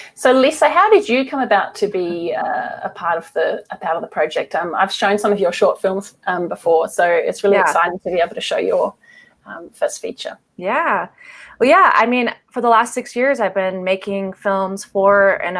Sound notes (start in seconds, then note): none